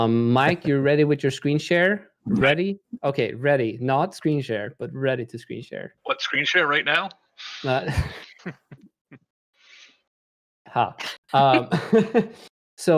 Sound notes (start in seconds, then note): 7.8 laughter